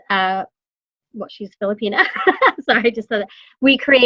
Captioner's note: laughing